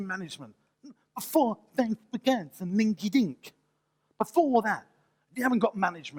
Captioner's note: mimic sounds